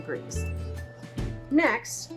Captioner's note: oven beeps